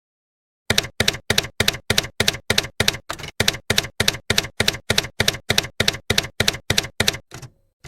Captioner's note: typewriter keys clacking